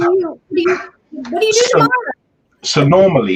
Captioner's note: voice fades